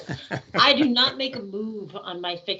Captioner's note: laughing